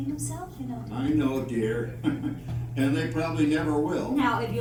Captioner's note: rire